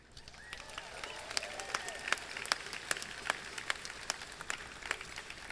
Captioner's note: crowd cheering and clapping